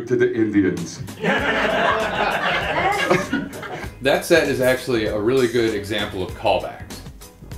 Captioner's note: laughter